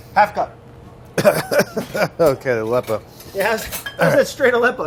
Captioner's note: coughing